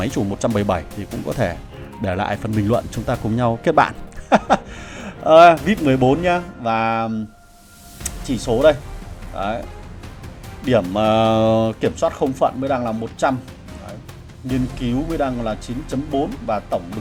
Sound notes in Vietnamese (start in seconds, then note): 4.0 tiếng cười